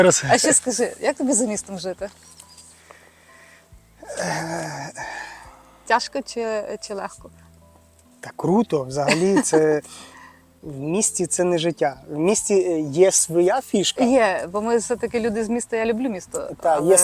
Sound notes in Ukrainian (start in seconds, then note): 9.9 сопіння